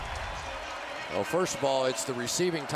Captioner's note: pa announcement